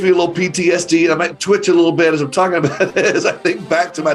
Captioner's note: laughs